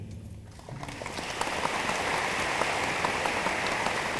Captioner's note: room applauds